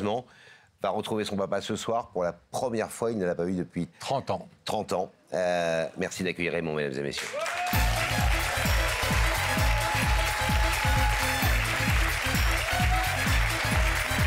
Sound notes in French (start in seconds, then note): 7.1 applaudissements